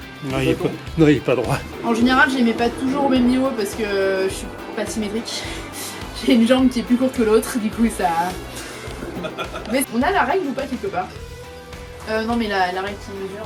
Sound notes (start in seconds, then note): 8.8 laughs